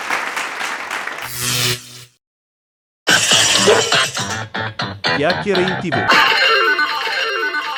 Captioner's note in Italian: Applauso